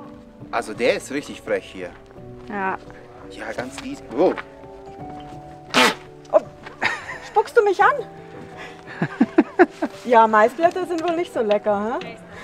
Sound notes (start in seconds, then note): 5.6 llama spits; 6.7 laughs